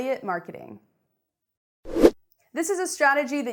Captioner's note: air whooshing